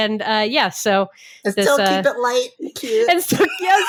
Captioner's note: laughs